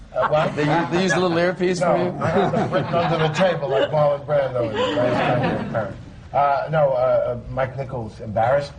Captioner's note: laughter